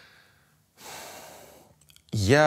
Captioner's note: exhales